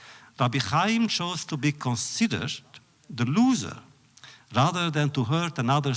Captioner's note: none